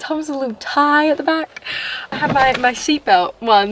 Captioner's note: gasp